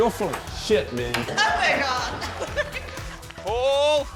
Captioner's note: laughs